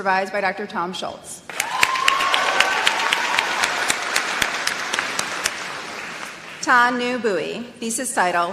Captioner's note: applause